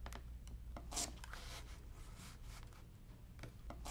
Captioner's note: paper tears